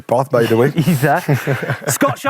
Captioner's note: laughing